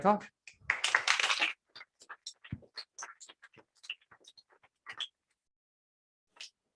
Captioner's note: applause